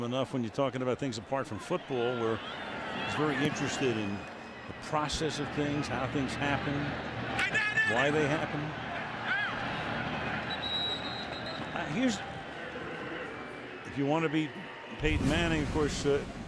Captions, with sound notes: been with him enough. When you're talking about things apart from football, where he's very interested in the process of things, how things happen, why they happen. [whistle blows] Here's-- if you want to beat Peyton Manning,